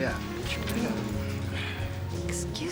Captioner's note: Leek mutters